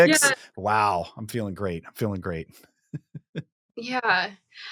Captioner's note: chuckles